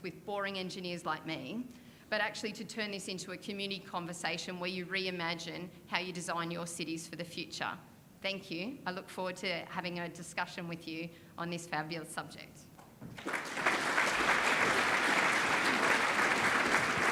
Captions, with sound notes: with boring engineers like me, but actually to turn this into a community conversation where you reimagine how you design your cities for the future. Thank you. I look forward to having a discussion with you on this fabulous subject. (audience applauding)